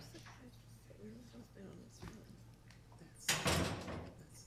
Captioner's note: woman speaking faintly